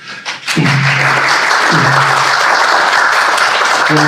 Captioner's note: clapping